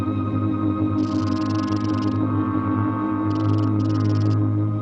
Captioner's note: rattling